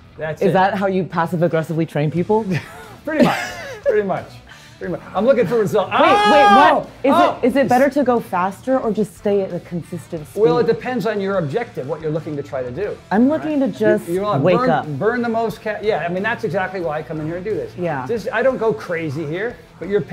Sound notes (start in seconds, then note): 3.2 laughs; 5.9 screams